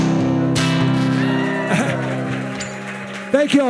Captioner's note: bright music continues; attendees cheering